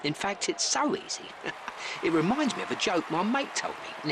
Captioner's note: chuckles